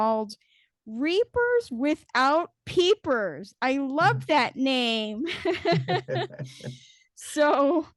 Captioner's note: laughs